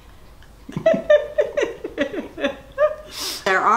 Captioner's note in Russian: Смеются